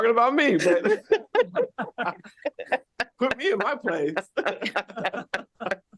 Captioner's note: laughter